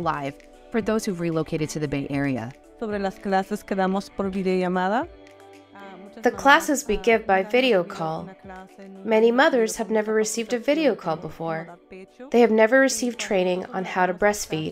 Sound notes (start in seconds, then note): 3.8 speaking Spanish; 6.8 english Voiceover